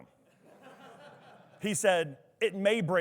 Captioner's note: attendees laughing